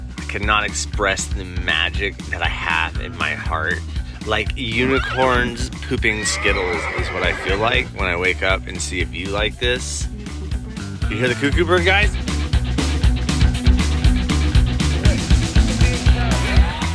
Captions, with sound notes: - I cannot express the magic that I have in my heart, like unicorns, pooping Skittles (unicorn sounds) is what I feel like when I wake up and see a view like this. You hear the cuckoo bird guys? (upbeat music)